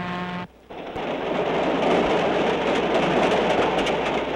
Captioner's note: train rattling